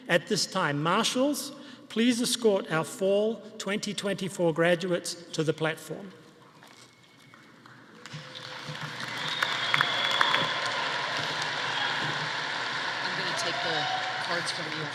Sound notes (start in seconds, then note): 7.3 audience applauding; 8.0 audience cheering